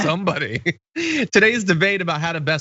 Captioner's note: laugh